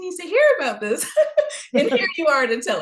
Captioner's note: laughing